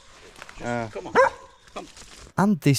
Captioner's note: dog barking